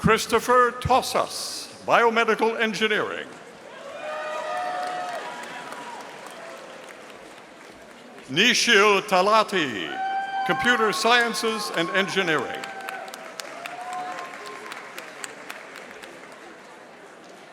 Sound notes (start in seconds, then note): 4.1 audience applauding; 13.0 audience applauding